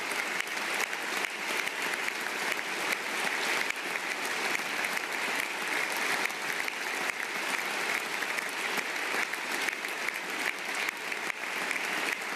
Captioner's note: applause